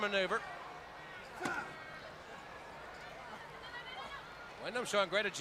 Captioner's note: crowd chatter